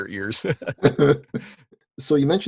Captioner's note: laughing